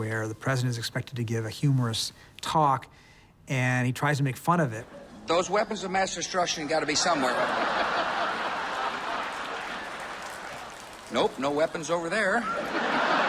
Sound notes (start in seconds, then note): 8.1 audience laughter; 12.3 laughter